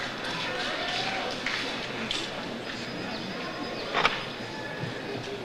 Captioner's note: audience cheers